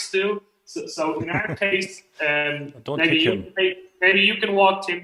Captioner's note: Lacht